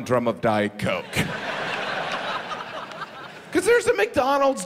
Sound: audience laughs

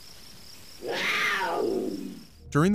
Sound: cat Growl

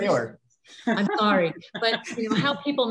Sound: laughing

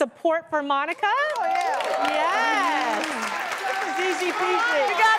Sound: applause

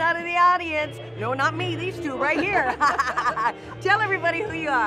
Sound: laughing

